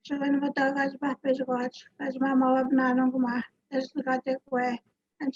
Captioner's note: speaks in foreign language